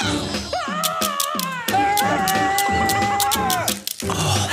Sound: wails; scraping noise

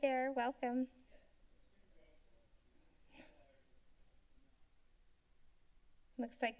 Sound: silence

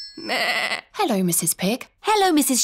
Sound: phone rings; bleats

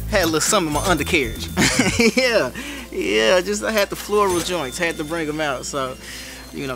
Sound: laugh

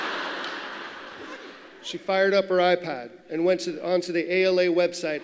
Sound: laughter

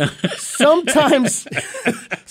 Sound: both laughing

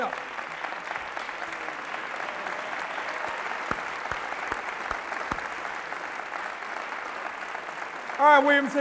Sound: applause

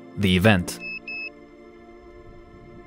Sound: beeping

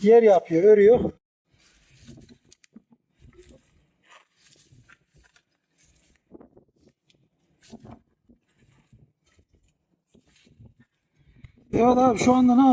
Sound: voices while driving the tar with a branch piece

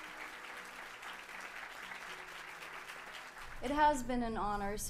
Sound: applause

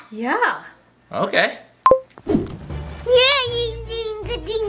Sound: remote beeping

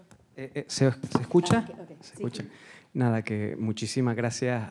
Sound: speaking Spanish

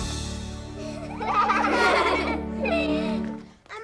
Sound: laughing

